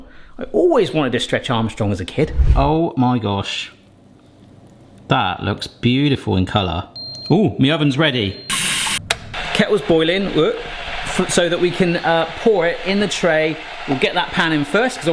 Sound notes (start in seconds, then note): 7.0 alarm beeping